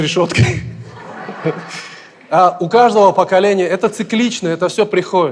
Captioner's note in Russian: смех в зале